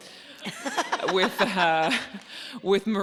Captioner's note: Myf laughing